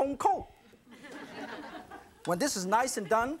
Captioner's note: audience titters